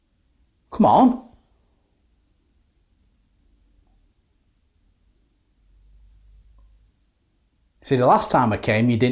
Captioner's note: silence